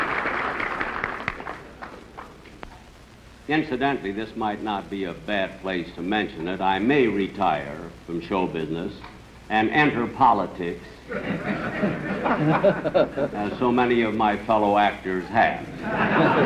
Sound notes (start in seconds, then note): 11.0 laughter; 15.6 laughter